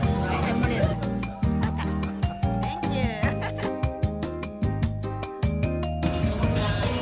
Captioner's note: drinking